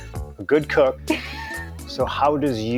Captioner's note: laugh